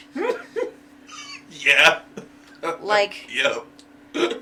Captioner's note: laughs